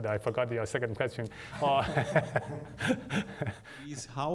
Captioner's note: laughter